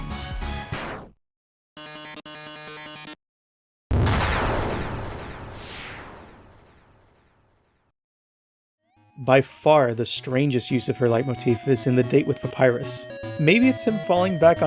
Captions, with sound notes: [explosion] [dust scattering] By far, the strangest use of her leitmotif is in the date with Papyrus. Maybe it's him falling back